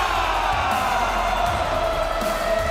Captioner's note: crowd cheering